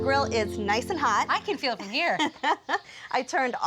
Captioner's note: laughs